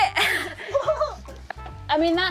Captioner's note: laughs